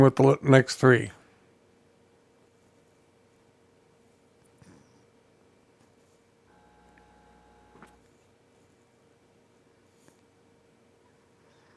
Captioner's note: silence